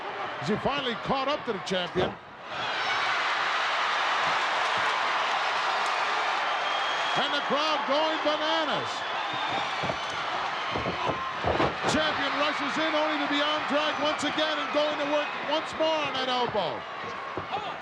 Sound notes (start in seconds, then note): 2.6 crowd cheering